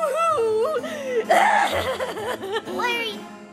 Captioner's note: fake crying